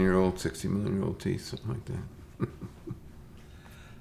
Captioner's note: chuckles